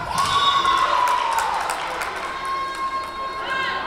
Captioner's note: whistle blowing